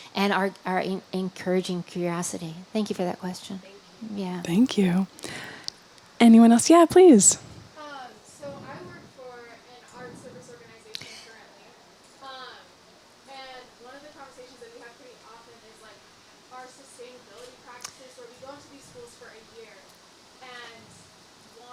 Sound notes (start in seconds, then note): 8.3 distant from microphone